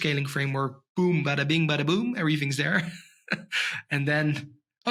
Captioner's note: chuckles